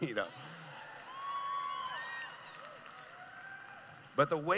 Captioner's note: cheering